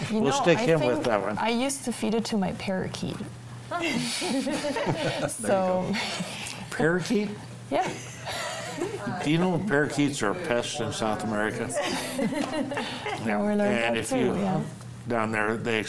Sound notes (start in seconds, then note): 3.8 panelists laughing; 11.6 laughing